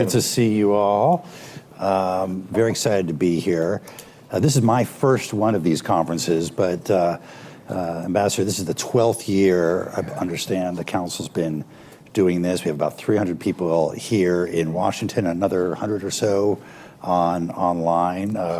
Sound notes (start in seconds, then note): none